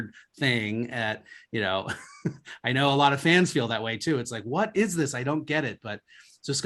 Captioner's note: laughs